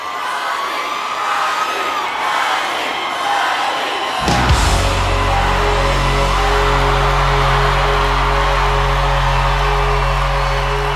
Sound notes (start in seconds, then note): 0.0 audience cheering; 4.2 upbeat music; 5.5 audience cheering